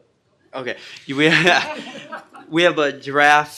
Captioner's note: group laughter